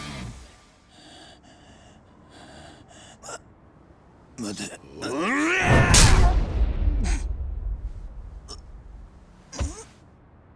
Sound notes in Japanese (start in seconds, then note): 2.3 荒い息; 5.0 叫び声